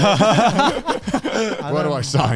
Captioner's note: laugh